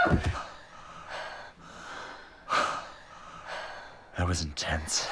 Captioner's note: Oswald Screams; panting